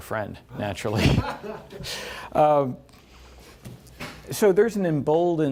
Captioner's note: laughter